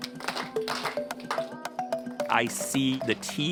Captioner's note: students clapping